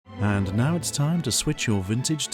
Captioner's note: voiceover